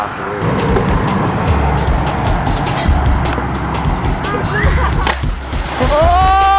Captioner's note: wind; jumping music idk